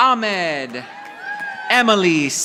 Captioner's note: audience applauding